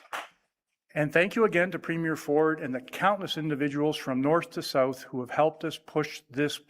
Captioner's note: applause